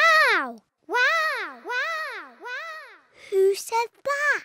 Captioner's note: peppa's voice echoes around mountains